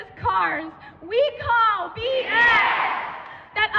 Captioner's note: crowd